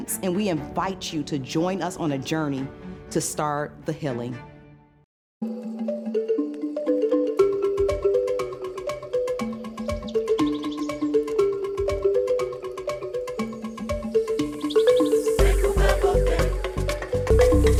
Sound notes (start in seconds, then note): 6.7 bright music; 8.7 birds chirping; 13.2 bright music continues